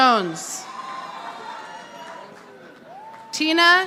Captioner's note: audience applauding